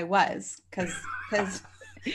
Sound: laughing

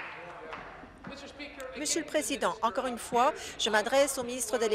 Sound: applause

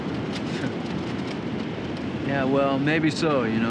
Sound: chuckles

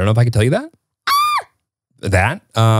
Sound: shrieks

